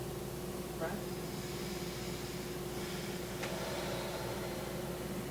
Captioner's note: blows out air